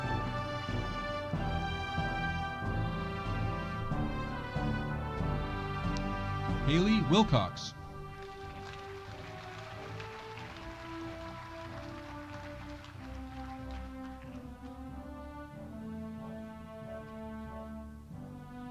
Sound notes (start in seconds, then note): 7.8 audience applauding